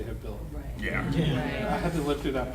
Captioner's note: panel muttering